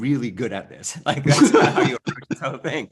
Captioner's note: laughs